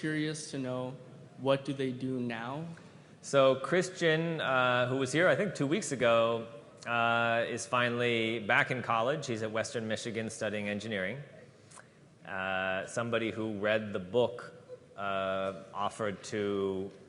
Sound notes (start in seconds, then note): none